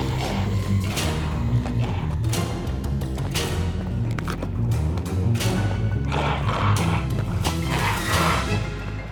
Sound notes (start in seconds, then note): 0.0 figure growling; 5.3 dramatic music continues